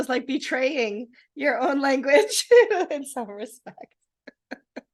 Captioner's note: laughing